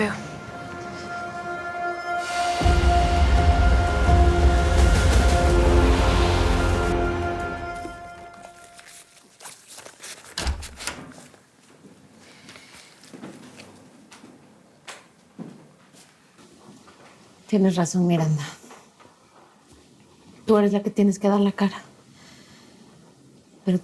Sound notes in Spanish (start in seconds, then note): 10.3 Sonido al abrir la puerta